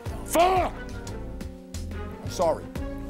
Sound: none

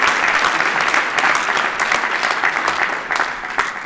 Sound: applause

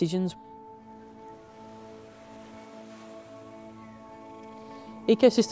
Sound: sounds of the beach

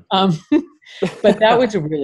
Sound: laughing

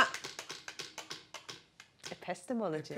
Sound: wheel clacking

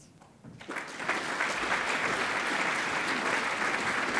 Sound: audience applauding

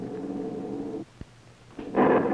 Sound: wind howls

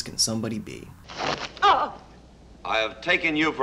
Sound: grunts

